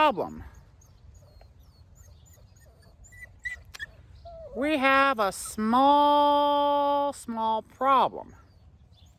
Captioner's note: Ella whimpers